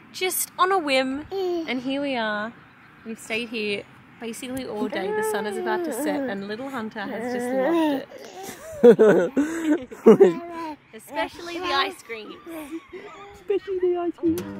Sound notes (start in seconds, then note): 8.4 laughing